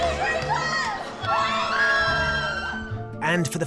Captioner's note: girls screaming